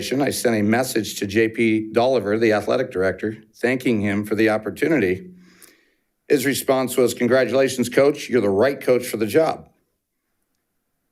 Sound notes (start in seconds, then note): none